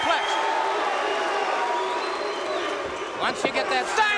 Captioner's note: crowd cheering